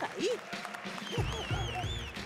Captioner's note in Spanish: Aplausos